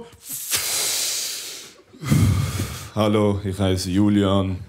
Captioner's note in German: Mit tiefer Stimme